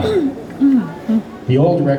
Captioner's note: throat clear